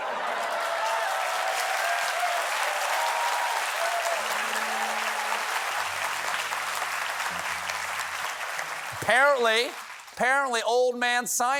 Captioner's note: cheers and applause